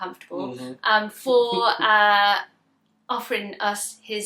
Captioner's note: laughs